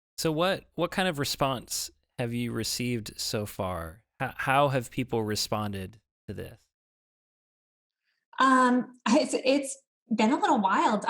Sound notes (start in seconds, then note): none